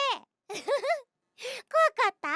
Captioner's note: cute laugh